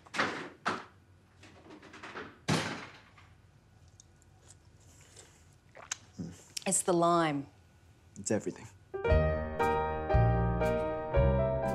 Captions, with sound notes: (crash!) (slurping) - It's the lime. - It's everything.